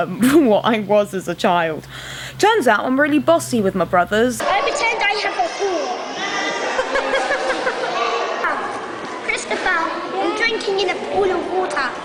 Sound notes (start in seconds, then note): 6.7 mum laughs